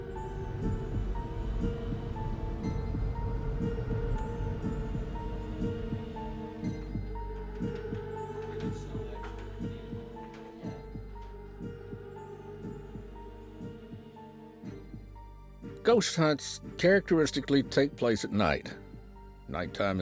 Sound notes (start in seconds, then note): 2.8 spooky music playing; 6.8 heartbeat beating